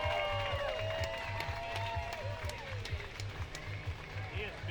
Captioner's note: cheering